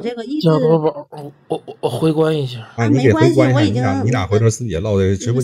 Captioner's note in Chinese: 大笑